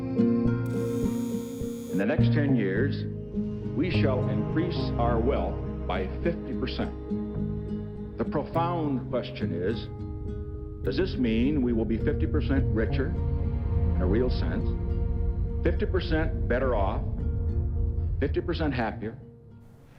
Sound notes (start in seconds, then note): 0.6 machine buzzes